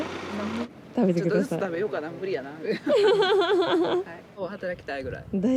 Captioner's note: laughter